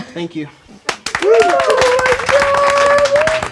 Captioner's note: crowd applauding